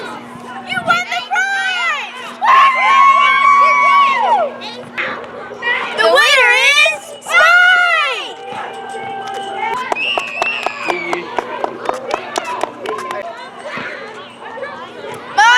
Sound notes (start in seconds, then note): 9.7 applause